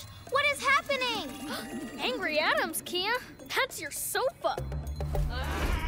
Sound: gasps

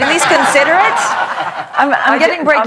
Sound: laughter

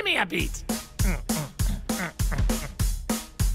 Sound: rhythmically grunting in time with music

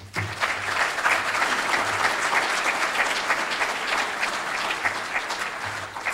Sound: audience applauding

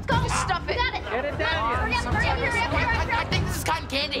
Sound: cheering

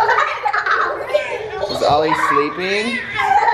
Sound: laughing

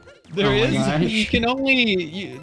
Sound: giggling

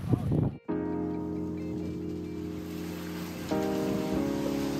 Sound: wind

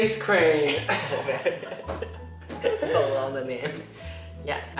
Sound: laughing

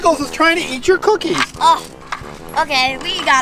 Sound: plate clanks

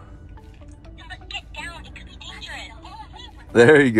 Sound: toy talking

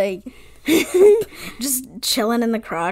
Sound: wheeze laugh

